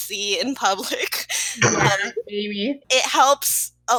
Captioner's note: snort